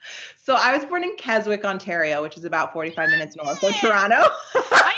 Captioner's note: giggling